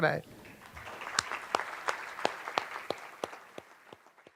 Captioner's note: applauding